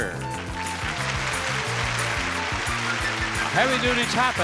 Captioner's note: audience applauds